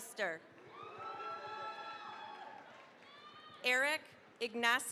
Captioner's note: cheering, applause